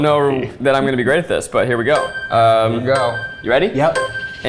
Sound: countdown dings

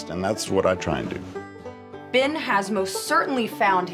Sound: none

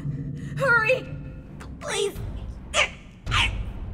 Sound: In Marionette's voice

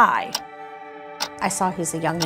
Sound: clock ticking

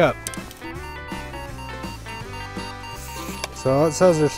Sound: upbeat music; machine beeps

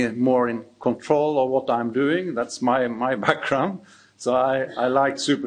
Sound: chuckles

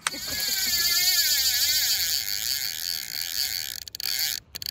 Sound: reel clicking

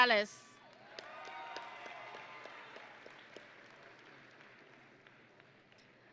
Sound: audience and graduates cheering

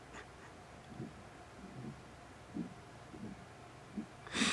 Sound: crying

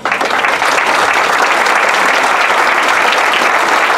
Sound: applause

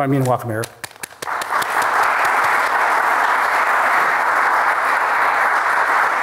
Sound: applause

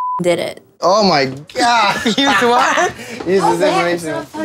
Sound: laughs

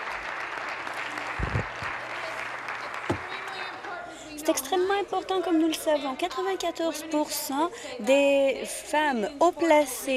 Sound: applause

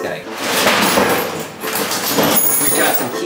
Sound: objects falling on floor

